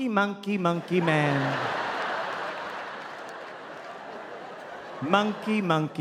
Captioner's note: audience laughing